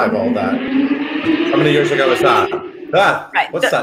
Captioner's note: car engine roars